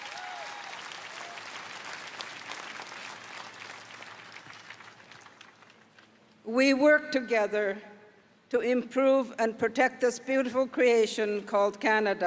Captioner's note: applause